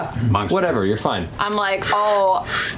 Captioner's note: coughs